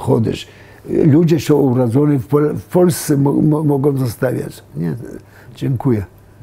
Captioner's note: in Hebrew; in Polish